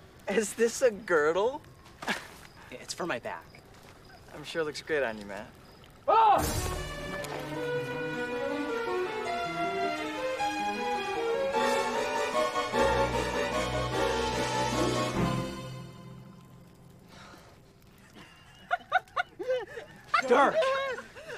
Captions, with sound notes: Is this a girdle? [laughing] It's for my back. I'm sure it looks good on you, man. [loud yell] [dramatic music] [dramatic music] [laughing] Dirk!